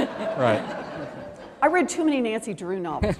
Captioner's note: laughter